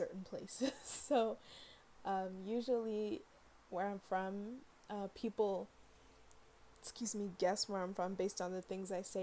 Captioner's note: burp